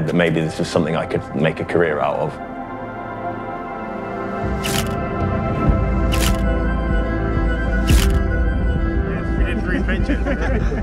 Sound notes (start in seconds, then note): 4.6 camera shutter repeats - schuck - schuck - schuck; 7.0 faster, optimistic upbeat notes; 9.5 muffled chat and laughter